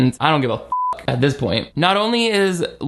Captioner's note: beep